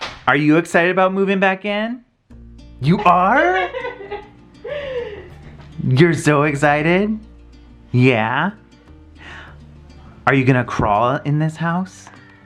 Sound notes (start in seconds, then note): 2.9 laughs